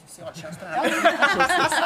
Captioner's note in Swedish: skratt